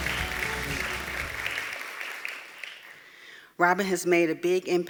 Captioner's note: applause